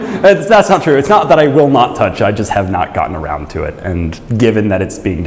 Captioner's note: chuckles